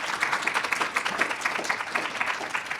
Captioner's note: applause